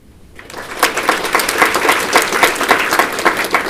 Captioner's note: applause